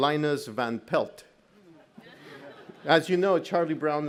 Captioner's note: audience laughs